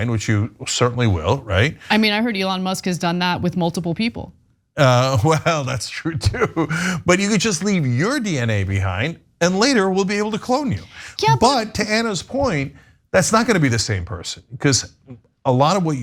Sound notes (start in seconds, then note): 4.8 laugh